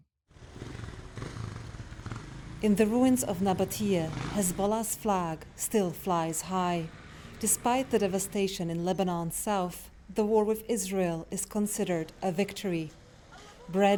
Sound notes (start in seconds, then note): 3.3 voice-over